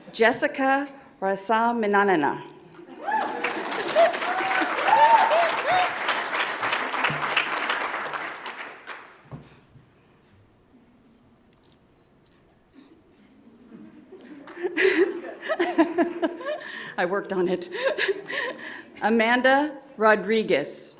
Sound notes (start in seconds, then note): 2.9 audience applauds; 14.1 laughs